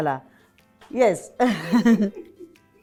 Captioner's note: chuckles